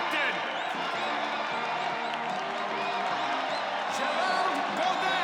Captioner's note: audience cheering